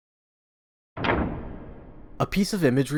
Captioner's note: door opening SFX